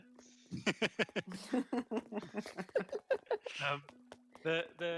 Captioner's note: laughing